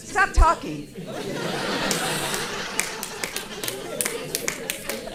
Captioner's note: audience laughing